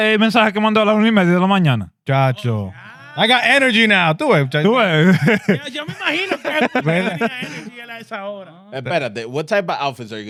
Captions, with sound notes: (Speaking In Foreign Language) I got energy now. Do it, do it. (Speaking In Foreign Language) What type of outfits are